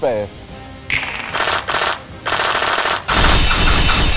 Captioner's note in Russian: Беспорядочная Стрельба - 1